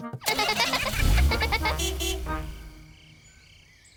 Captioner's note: horn toots; giggling